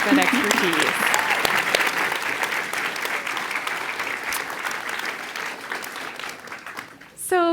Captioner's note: applause